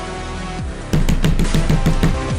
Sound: thumping

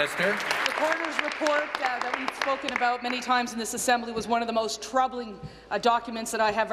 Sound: applause

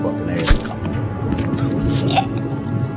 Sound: Troy choking; dramatic music

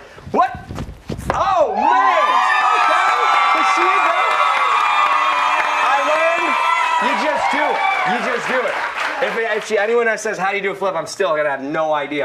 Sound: cheers and applause

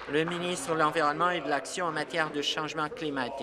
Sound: applause

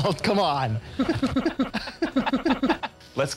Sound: unnatural giggling

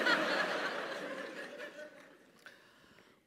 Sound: laugh

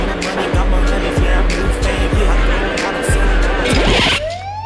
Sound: siren

